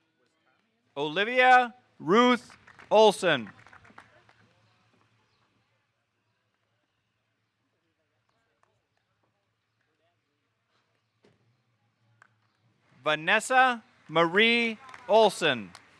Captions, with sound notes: Olivia Ruth Olson. (audience applauding) Vanessa Marie Olson.